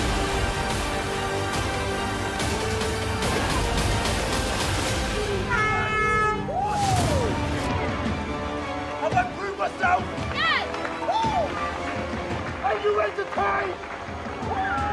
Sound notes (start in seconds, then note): 5.4 hooter honks; 14.7 crowd cheering